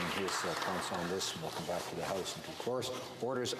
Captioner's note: applause